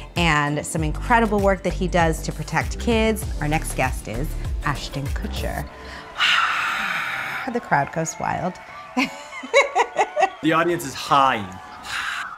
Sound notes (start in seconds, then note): 5.6 cheering; 8.8 laughing; 10.0 audience cheering